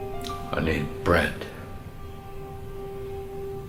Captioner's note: none